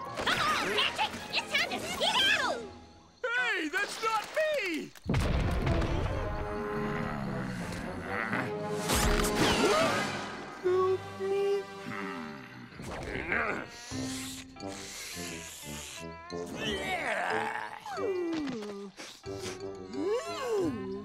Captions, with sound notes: Patrick, it's time to get out! Hey, that's not me! [loud stomping] [growling] Help me... Hmm... [sniffing] [disgusted groan] [sniffing] [disgusted groan]